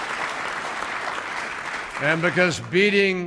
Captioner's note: applause